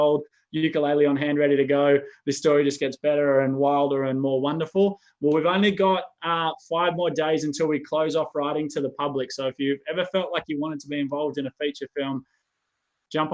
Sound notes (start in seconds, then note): none